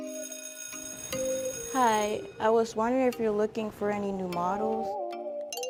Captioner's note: school bell rings